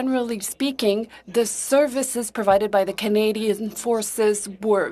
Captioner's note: speaking French